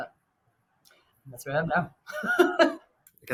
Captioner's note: chuckles